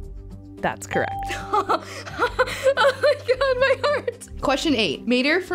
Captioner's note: laughing